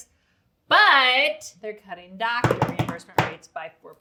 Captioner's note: drums on table